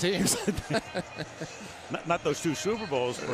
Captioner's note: laughter